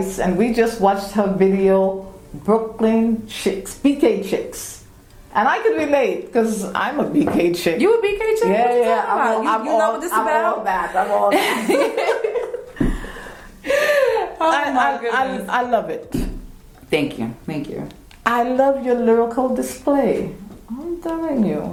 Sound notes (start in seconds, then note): 10.9 laugh